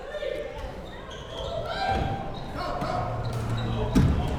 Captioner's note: crowd members shouting